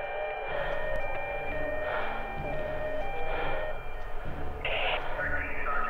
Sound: siren blares onscreen; Susan pants

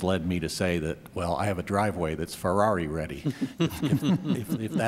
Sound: laughter

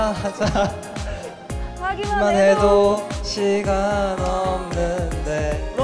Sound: misses the beat laughing

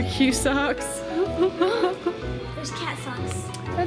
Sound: laughs

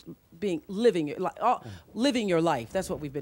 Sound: stutters

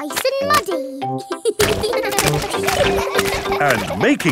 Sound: children laughing

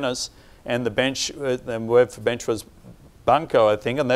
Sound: speaking in a foreign language

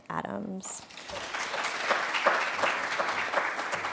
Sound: applause

